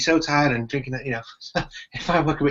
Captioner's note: laughs